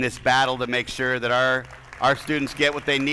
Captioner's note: attendees applauding